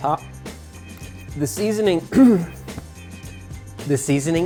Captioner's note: clears throat